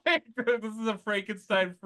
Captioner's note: laughter